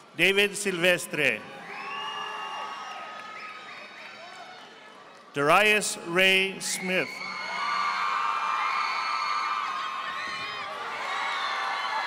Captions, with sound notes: David Silvestre. (audience applauding) Darius Ray Smith. (audience applauding)